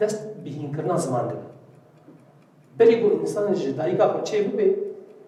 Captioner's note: clock ticking